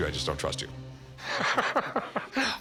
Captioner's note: laughter